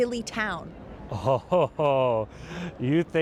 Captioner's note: laughs